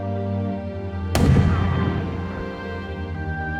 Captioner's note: gun shot